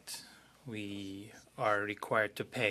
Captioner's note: speaking French